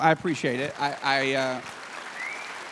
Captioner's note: applause